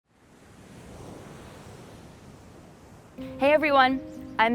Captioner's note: ambient ocean waves